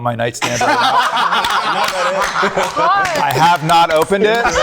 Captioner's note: group laughing